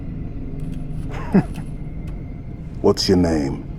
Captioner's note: laugh